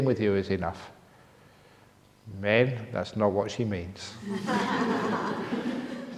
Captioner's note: laughter